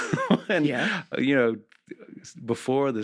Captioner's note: laughs